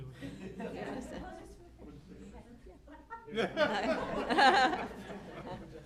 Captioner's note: chatter